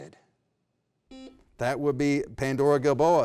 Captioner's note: beep